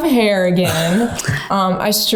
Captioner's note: chuckling